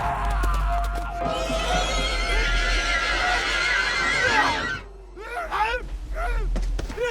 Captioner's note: horse galloping and stopping; horse neighing; painful moans; footsteps; intense horror music